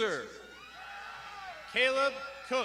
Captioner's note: crowd shouting